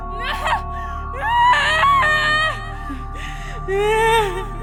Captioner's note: wailing